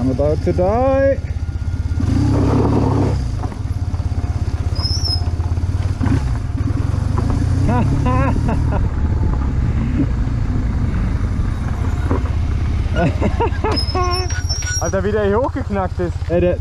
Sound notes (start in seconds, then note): 7.6 laughs